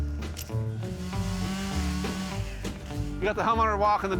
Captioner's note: saw buzzes